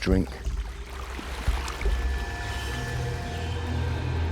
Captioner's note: water splashes